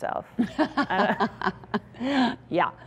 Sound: laughing

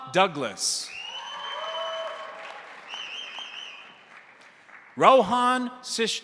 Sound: crowd cheering; crowd applauding

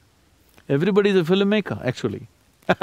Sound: laughs

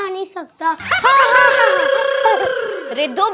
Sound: laughing

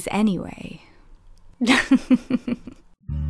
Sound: gay chuckling

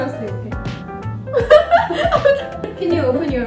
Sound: laugh

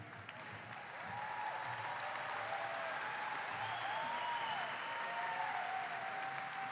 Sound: applause and cheering

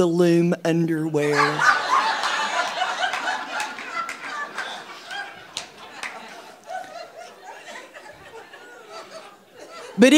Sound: audience laughing

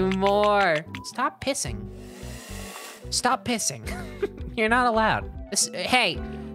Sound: laughing

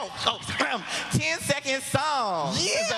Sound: whispering

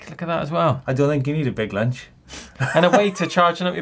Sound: laughs

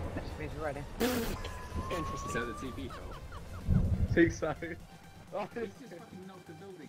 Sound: stunned chattering and laughter

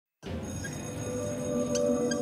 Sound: bell ringing

